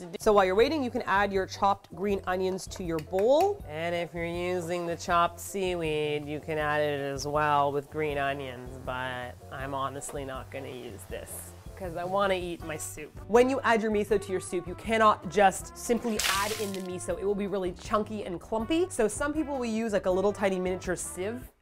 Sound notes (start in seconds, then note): 3.5 unenthusiastic voice